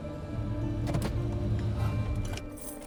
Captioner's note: gearshift clicks; engine shuts off, keys jangle